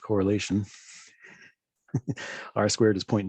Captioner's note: chuckles